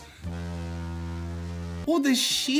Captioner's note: ship horn